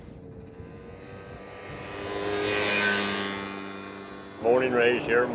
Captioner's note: motorcycle engine whirring